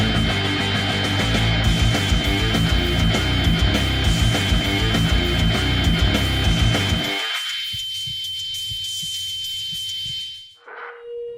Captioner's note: loud pitch noise